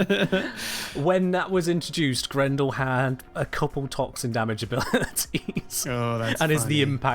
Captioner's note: both laugh; chuckles